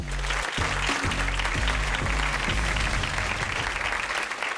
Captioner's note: instrumental music; audience applauding